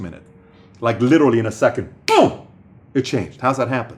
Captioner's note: snap fingers